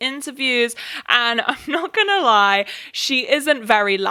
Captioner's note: laughs